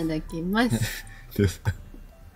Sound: laughs

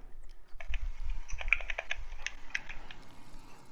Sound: intense Button Mashing

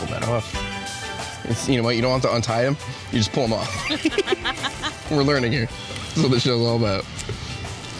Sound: laughs

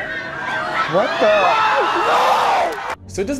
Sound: audience screaming

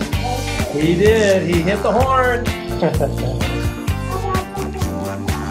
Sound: laughs

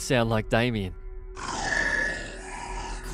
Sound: growls

